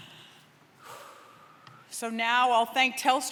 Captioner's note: breathes deeply